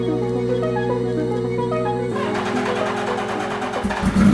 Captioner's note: engine starts; ignition stutters